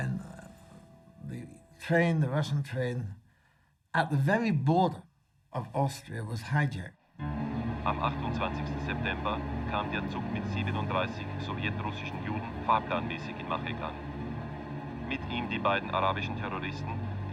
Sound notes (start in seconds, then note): 7.6 speaking foreign language